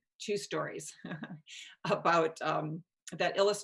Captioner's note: chuckles